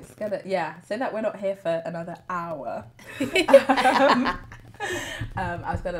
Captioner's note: laughter